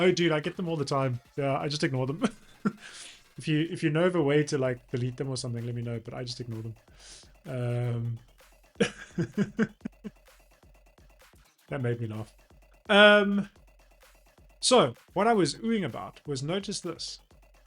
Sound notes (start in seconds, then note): 8.8 laughs